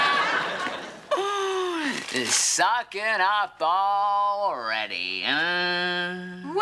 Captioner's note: exclaims